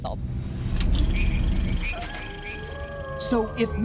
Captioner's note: projector whirring; wolf howling